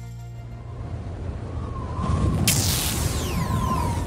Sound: wind whooshing; zapping noises

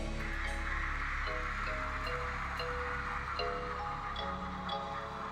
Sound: cheers, applause

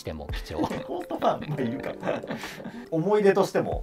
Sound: laughing

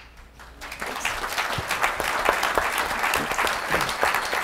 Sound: audience applauding

